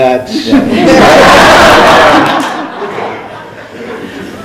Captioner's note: laughing